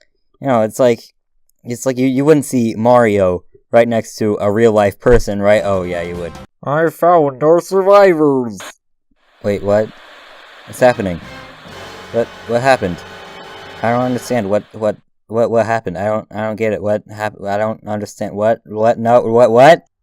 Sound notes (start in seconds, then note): 6.6 in a really awkward voice